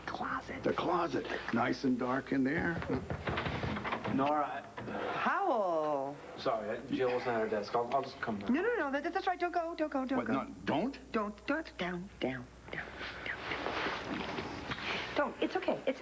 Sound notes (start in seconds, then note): 2.4 knock on door